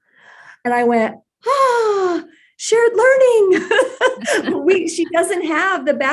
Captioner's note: laughs